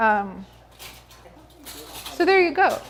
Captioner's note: muffled chatter